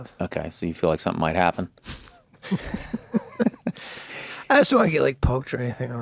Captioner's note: group laughs